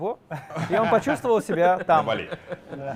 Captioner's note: laughter